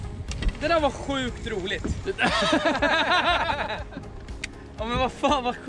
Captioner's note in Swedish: Lauthing